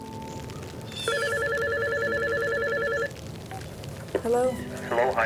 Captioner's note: telephone rings